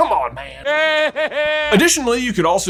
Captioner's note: Voldemort laughs